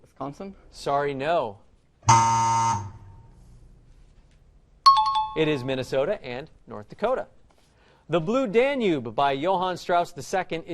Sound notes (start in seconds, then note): 2.0 buzzer; 4.9 time chime